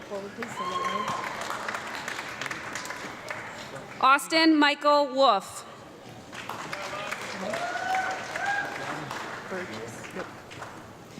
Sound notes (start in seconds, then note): 0.3 audience clapping and yelling; 6.2 audience clapping and cheering